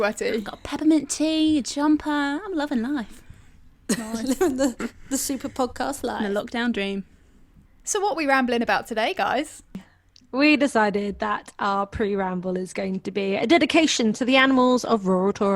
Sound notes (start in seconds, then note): 3.9 laughs